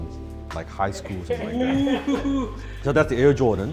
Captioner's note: laughs